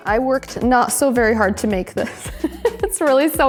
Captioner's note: laughs